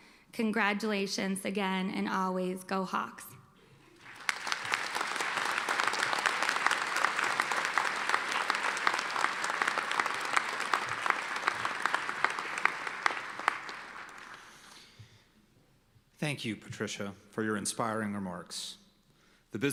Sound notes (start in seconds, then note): 4.1 applause